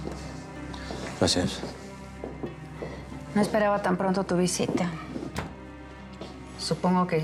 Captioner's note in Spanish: sonido al abrir la puerta